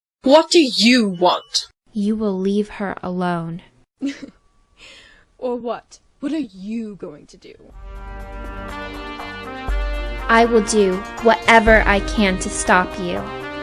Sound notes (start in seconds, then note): 4.0 laughs